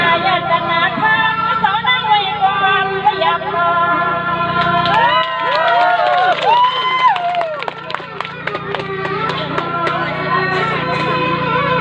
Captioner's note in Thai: ปรบมือ